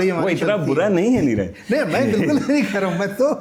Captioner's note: laughs